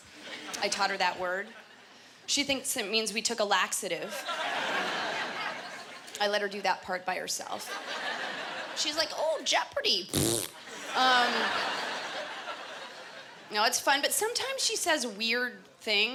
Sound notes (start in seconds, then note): 4.1 laughter; 7.6 laughter; 10.0 imitating flatulence